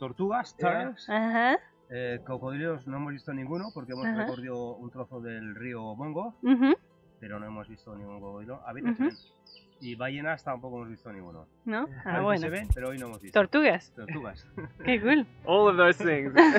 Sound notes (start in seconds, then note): 0.2 speaks in foreign language; 5.1 continues speaking in foreign language; 13.8 speaks in foreign language